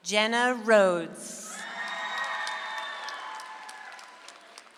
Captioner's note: audience applauds